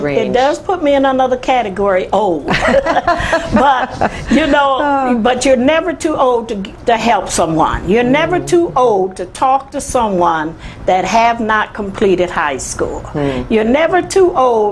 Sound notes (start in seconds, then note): 2.6 laughs